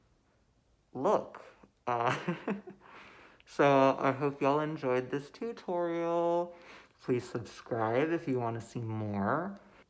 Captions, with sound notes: look! [chuckles] So, I hope y'all enjoyed this tutorial, please subscribe if you wanna see more!